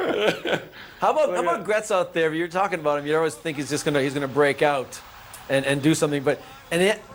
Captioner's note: laughter